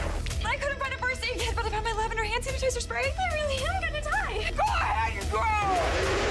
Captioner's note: screaming